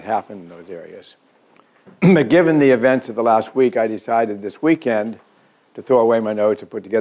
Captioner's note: cough